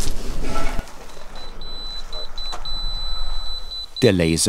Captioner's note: beeps